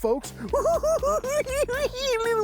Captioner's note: cackling